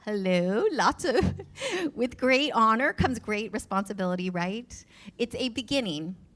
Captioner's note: laughs